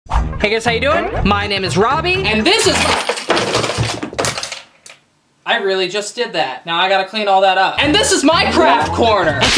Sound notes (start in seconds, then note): 2.6 items falling to the ground